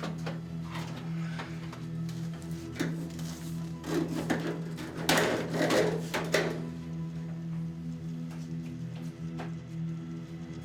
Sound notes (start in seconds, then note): 3.4 plastic sounds